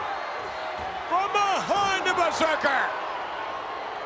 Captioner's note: applause